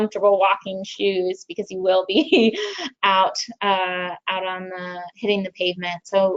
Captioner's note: chuckles